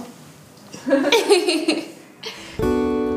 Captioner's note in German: Kichern; Sanfte Musik